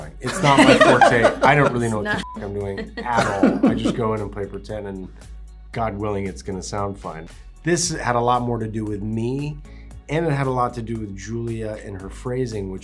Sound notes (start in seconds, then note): 2.1 beep